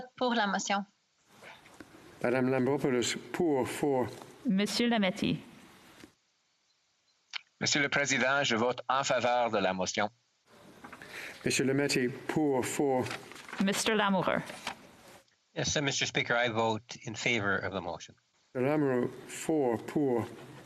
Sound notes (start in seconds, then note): 13.4 speaking French